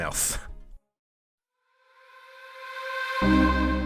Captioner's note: voiceover